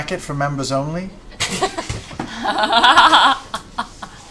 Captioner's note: laughter